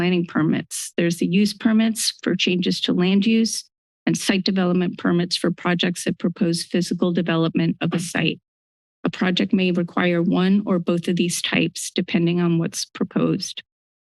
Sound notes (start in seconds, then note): none